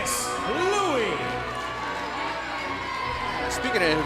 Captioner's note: crowd cheering